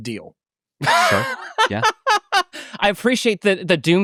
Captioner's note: laughing